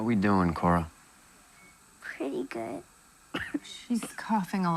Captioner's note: coughs